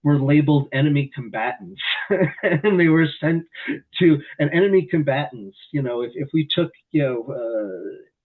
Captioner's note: laughs